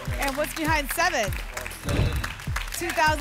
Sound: whoosh

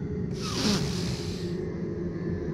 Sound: big sniff

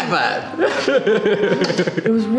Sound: laughing

